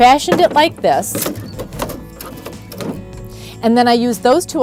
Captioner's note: low clattering